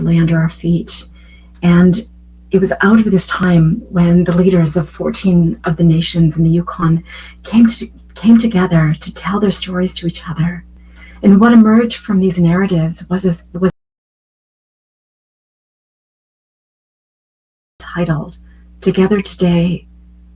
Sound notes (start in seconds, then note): 14.3 audio out